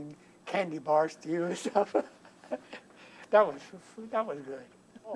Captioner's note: laughs